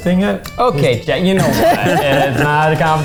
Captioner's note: everyone laughing